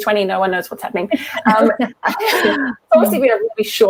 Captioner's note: laughter